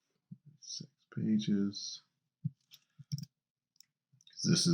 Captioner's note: mouse clicking